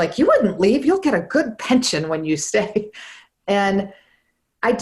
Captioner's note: laughs